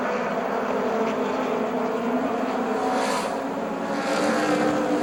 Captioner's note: engines whine